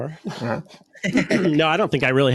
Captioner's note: chuckling